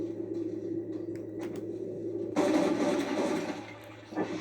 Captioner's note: sounds of cold blood and locking targets; Sounds of cold blood ending and firing